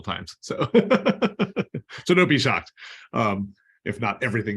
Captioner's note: laughter